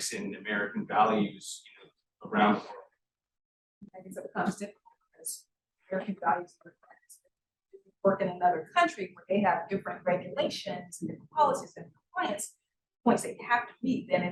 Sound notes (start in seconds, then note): 4.5 sound distorted